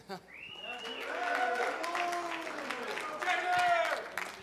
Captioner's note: applause